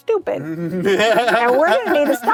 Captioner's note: laughs